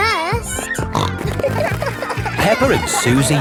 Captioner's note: snorting